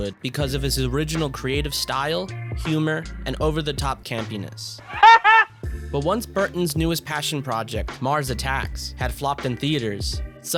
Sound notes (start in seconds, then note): 4.9 Pee-wee laugh